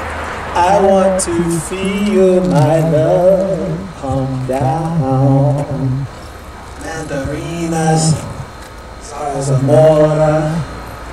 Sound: laughing

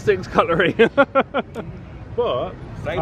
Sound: laughs

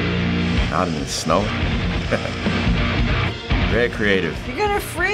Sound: chuckles

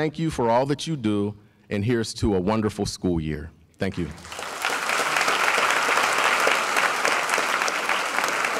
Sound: applause

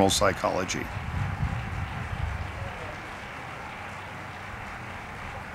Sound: audience applauding

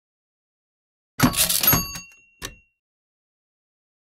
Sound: sound of typewriter

